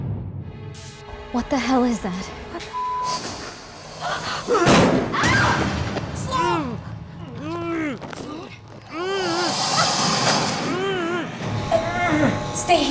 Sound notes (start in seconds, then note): 3.3 screams; 7.0 grunting